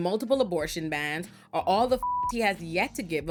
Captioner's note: beep